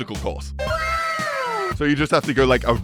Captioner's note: wow sound effect